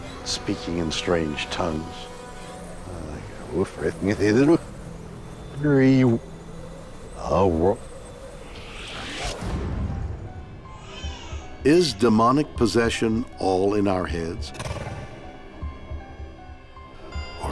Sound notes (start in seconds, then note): 3.1 speaks gibberish; 10.1 cries out; 10.1 slow eerie music